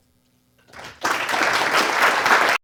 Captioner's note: applause